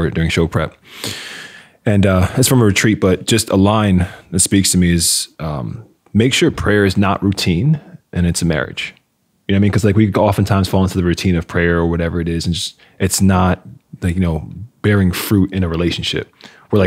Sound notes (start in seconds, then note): none